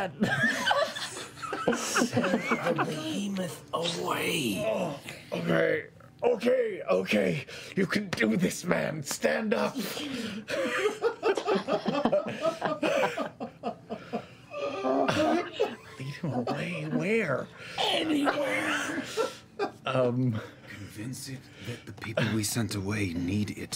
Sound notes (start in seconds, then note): 10.3 whispering